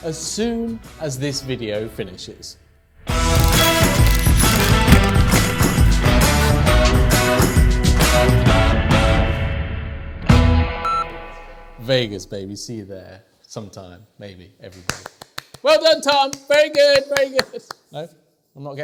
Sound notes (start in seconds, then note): 3.1 bouncy instrumental music; 10.8 beep